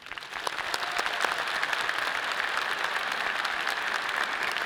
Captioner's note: audience applauds and cheers